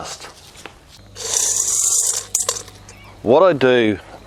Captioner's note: corn kernels crushing into metal bowl